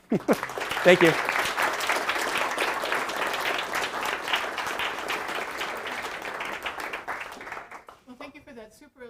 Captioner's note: applause